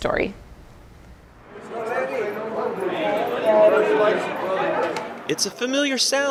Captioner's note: background chatter